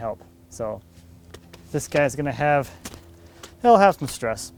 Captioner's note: pats